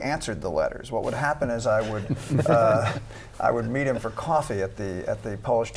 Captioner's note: laughter